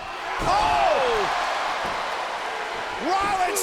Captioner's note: audience cheers